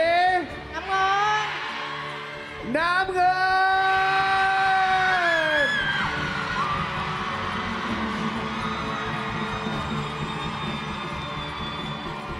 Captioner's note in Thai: ปรบมือ